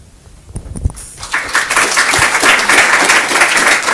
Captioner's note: applause